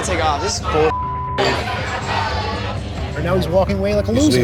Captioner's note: beep